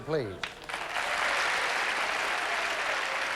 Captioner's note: applause